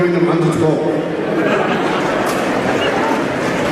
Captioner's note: crowd Laughs